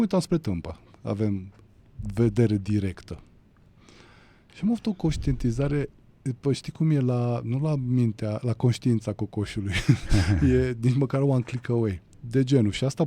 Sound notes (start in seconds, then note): 9.6 laughter